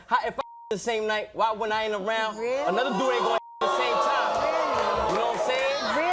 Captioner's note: beep; beep